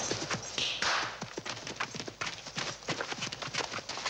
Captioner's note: claps hands